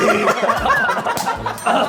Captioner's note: choking